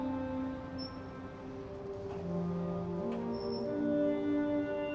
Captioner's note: gate creaking